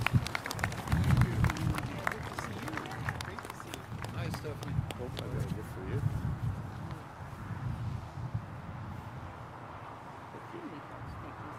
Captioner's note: applause